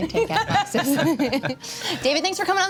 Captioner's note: everyone laughs